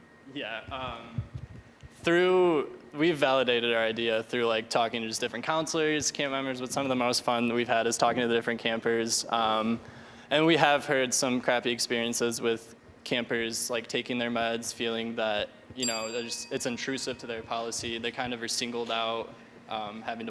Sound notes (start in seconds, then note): 15.8 ding